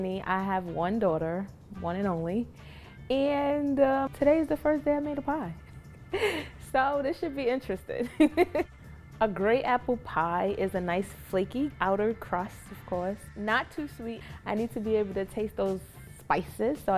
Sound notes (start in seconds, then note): 8.0 laughing